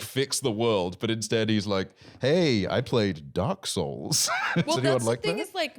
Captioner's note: laughs